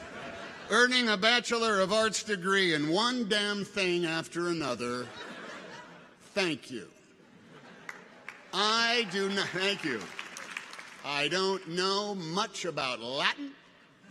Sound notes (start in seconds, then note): 7.8 people applaud